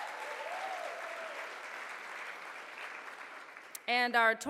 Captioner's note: audience cheers